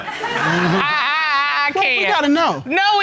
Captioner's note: stammers